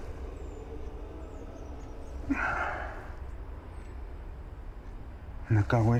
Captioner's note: birds chirping